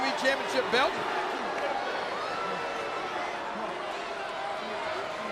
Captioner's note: audience cheering